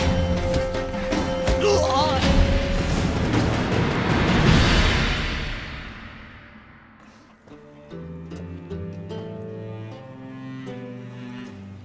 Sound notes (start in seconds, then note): 1.5 cries out